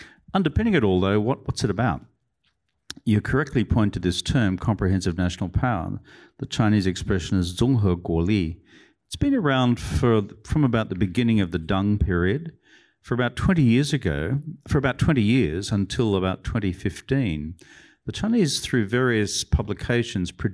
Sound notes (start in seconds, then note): 8.0 non-english